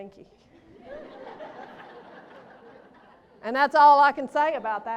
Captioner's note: laughter